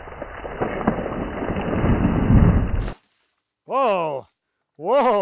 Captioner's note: water hitting